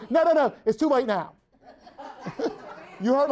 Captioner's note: everyone laughs